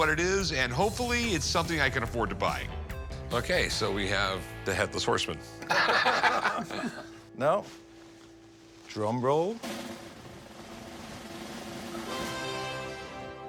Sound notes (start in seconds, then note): 5.6 both laugh; 10.2 percussive music